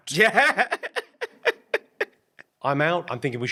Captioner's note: laughs